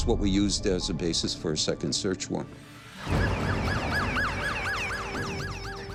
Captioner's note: sirens wail